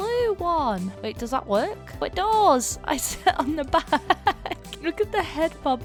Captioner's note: laughs